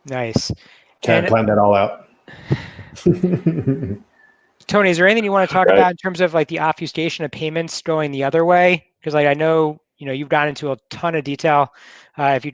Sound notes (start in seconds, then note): 2.9 chuckles